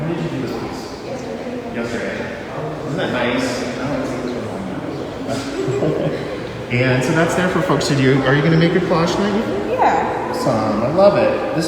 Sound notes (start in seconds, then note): 5.3 laughs